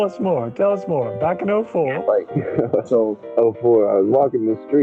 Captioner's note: giggles